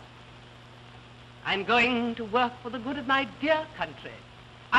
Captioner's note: none